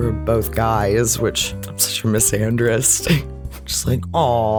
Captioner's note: laugh